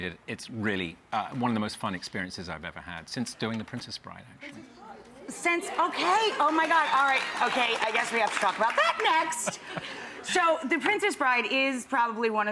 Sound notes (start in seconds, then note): 4.5 audience murmuring; 5.7 audience applause